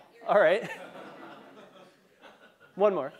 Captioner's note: laugh